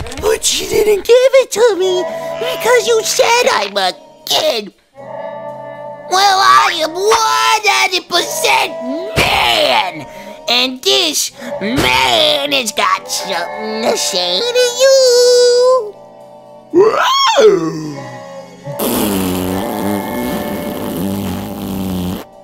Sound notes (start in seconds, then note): 17.5 inhales